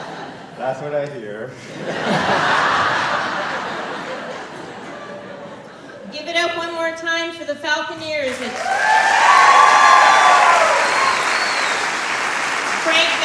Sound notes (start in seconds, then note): 1.6 laughter; 9.9 applause and cheering